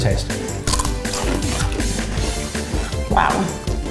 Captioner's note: crunching